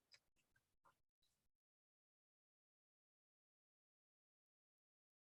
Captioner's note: silence continues